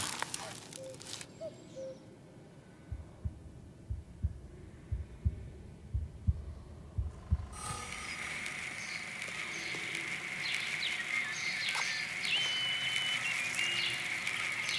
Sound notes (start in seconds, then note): 0.1 birds cawing